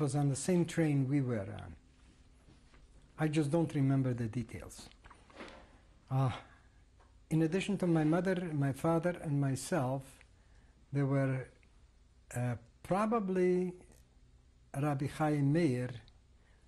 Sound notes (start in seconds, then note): 4.5 pauses for 3 seconds